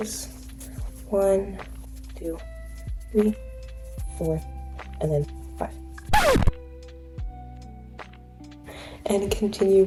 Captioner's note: record scratch sound effect